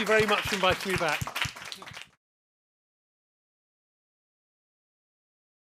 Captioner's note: applause